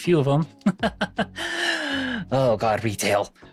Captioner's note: laughs